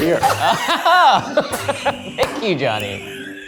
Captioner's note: all laughing